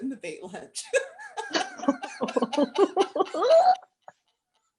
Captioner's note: laughter